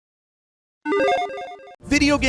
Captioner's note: playful tone